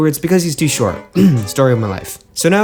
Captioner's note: ahem